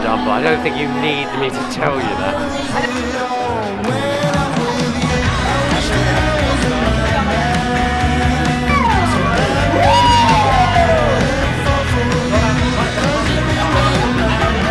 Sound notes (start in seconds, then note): 6.5 people chattering; 6.5 upbeat rock music